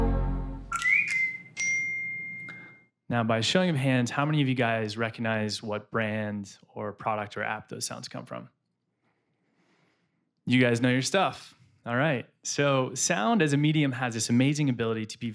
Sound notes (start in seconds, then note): 0.1 tweeting; 0.8 ring